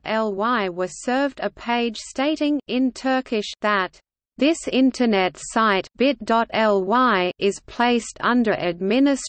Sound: in Turkish

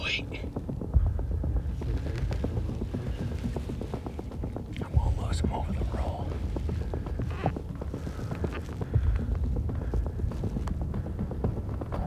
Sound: whispering; whispering

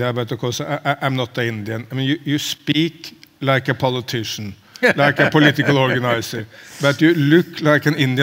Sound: Sadhguru Laughs

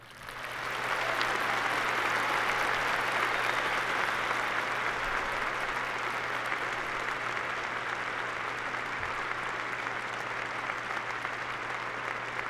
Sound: applause

